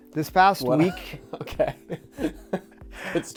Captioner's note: laughing